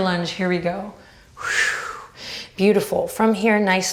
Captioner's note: whooshes